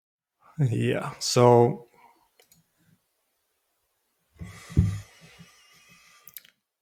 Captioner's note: silence